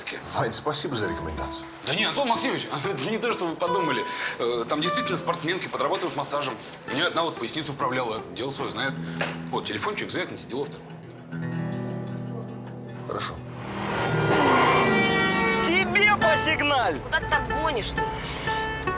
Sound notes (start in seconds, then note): 13.6 horns honking